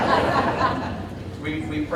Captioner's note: audience laughing